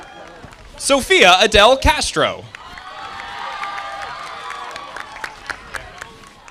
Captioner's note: audience applauding